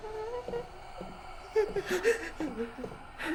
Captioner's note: whimpering